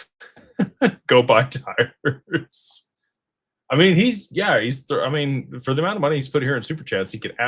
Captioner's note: laughter